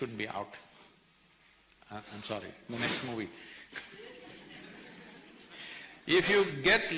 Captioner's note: few laugh